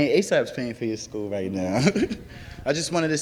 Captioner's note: laughs